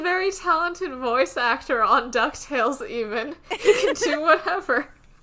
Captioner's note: both laugh